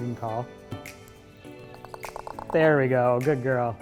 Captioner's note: bird Noise